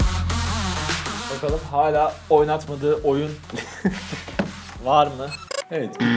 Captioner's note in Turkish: gülüşme